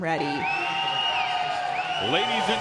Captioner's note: cheering